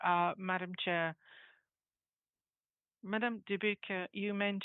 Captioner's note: speaking French